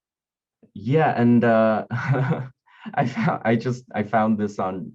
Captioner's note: laughing